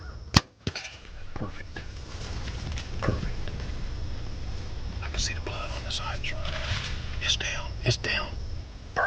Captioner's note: whispering